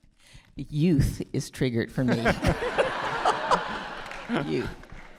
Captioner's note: all laughing